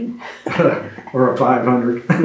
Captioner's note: laughter